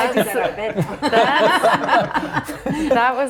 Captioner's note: everyone laughing